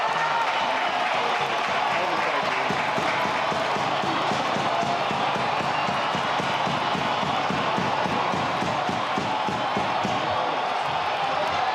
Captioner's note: crowd chatter